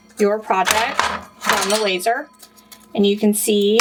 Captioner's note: metal clanging